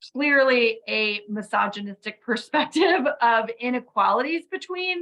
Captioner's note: laughs